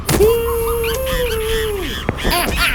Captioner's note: Minion Bear whooping